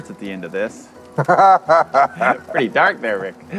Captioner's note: both laughing